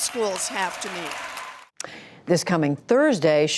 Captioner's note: cheering and applause